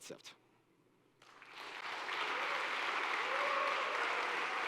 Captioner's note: applause